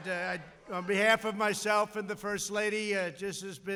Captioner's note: applause